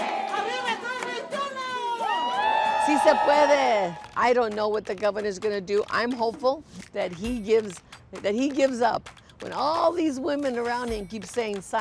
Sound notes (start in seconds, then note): 2.1 crowd cheers